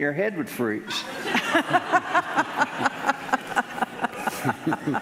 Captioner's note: laughing